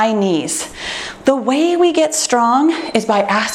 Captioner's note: timer beeps